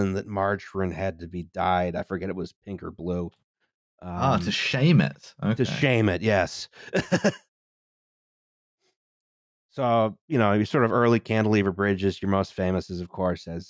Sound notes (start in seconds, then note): 5.4 laughs